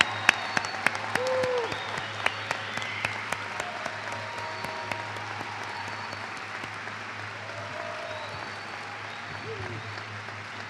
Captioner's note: cheers and applause